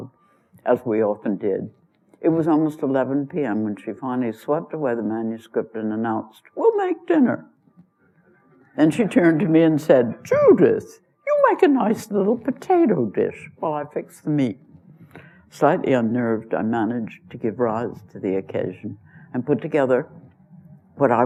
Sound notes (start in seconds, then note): 8.9 laughter